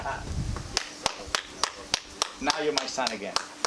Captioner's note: clapping